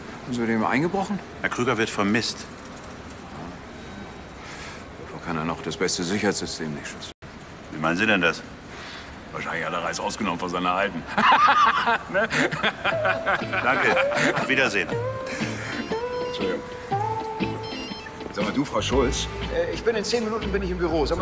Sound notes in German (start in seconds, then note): 11.0 lacht